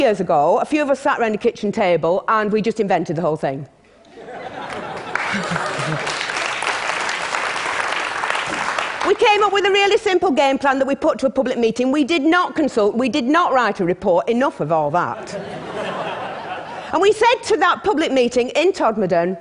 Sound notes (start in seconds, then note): 4.0 laughter; 4.7 applause; 15.2 laughter